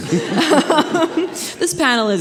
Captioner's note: audience laughing